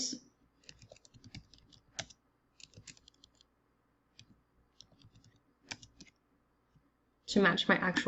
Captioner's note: typing